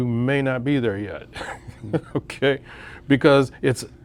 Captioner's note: laughs